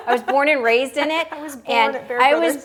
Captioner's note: laughing